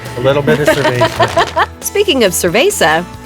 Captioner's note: laughter